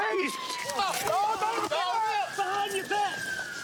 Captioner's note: yells